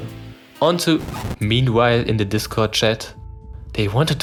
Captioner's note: Static